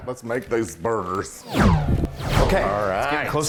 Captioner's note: whoosh sound